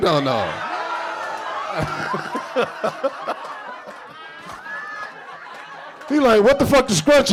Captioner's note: audience cheering; laughing